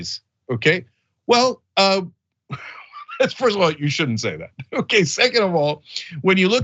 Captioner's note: laugh